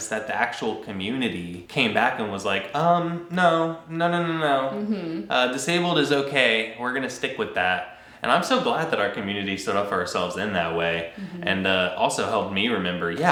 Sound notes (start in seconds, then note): none